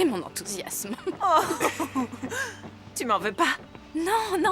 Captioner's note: laughing